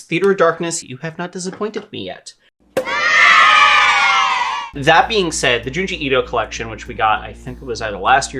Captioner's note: cheers